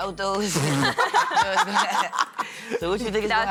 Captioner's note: laughter